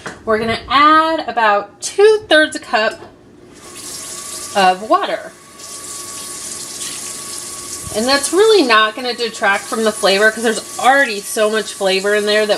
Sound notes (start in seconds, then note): 5.7 water running